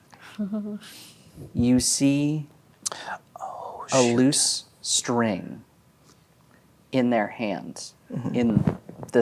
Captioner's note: whispers